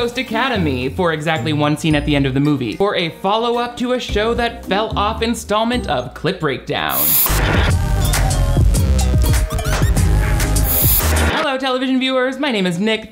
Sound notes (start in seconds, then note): 6.8 upbeat music; 6.9 static blares